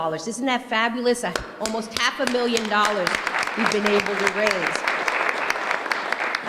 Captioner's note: applause